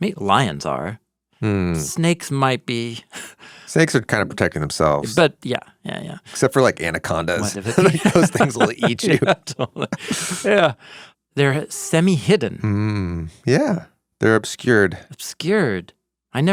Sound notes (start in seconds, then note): 9.3 both laughing